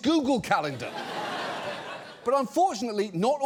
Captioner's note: studio audience laughs